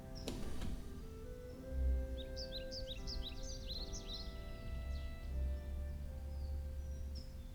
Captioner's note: birds chirp